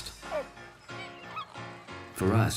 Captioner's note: cooing